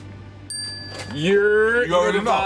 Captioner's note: bell dings